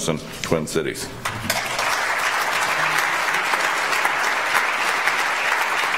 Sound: audience applauds

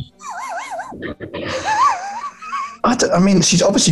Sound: sniggering

